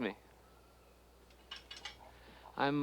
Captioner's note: dishes clinking